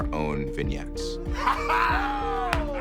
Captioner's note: laugh